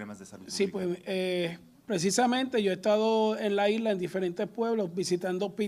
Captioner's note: speaks in foreign language